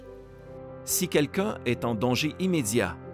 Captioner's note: Voix off masculine